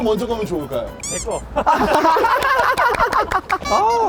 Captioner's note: laughing